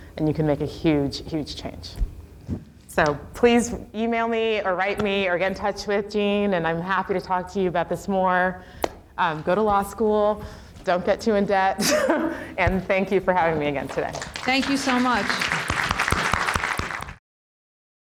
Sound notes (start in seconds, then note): 11.8 laughs; 15.8 applause